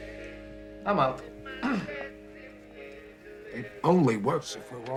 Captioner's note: clears throat